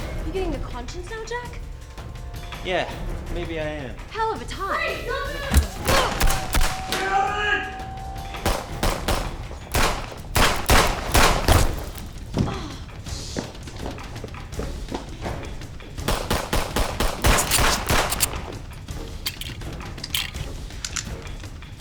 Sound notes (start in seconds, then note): 5.5 gun firing; 8.4 gun firing; 12.4 sighing; 16.0 gun firing